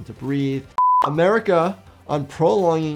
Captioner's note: screen beeps